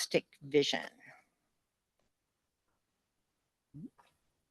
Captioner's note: silence